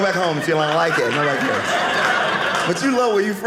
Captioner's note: audience laughing